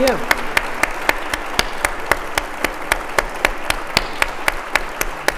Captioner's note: audience applauding